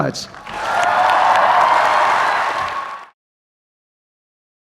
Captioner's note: applause